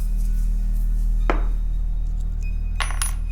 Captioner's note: coin clanks